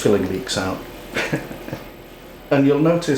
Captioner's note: laughs